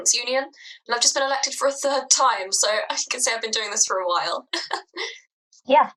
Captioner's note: laugh